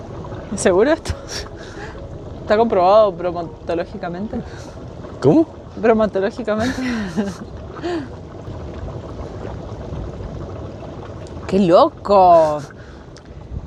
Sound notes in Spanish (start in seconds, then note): 9.9 risas